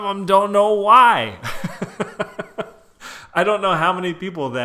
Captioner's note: chuckles